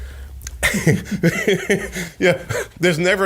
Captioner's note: laughs